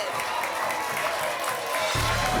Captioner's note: applause and cheering cont